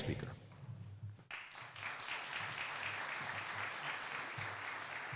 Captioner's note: applause